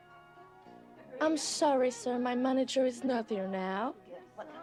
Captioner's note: laughing